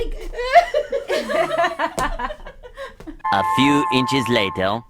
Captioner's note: all laugh